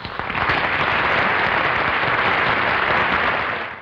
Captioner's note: clapping